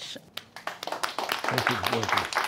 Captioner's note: audience applauding